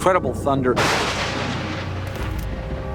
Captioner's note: thunder clap